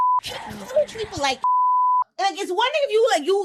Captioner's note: beep